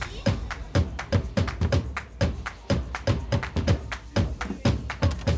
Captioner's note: crowd chattering